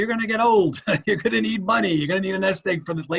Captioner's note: chuckles